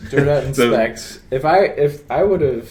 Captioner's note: laughs